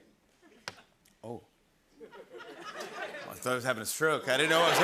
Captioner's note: taps